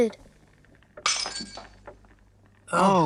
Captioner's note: glass crashes